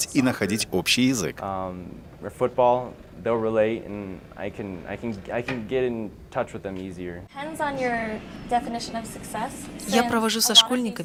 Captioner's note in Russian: английская речь